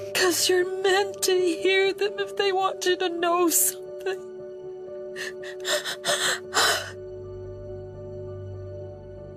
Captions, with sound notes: because you're meant to hear them if they want you to know something. (crying)